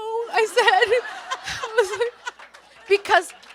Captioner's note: everyone laughs